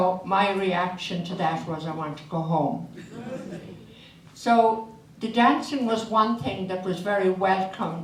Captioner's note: audience laughs